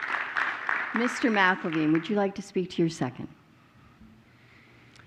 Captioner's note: applause